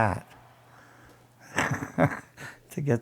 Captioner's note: laughter